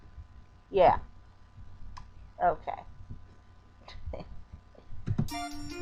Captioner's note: chuckling